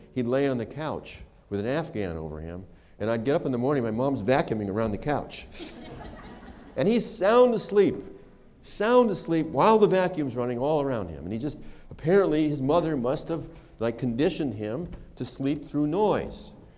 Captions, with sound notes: He'd lay on the couch with an afghan over him and I'd get up in the morning. My mom's vacuuming around the couch [laughter]. And he's sound asleep, sound asleep while the vacuum's running all around him. And he just -- apparently his mother must have like conditioned him to sleep through noise.